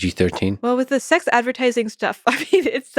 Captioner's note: chuckles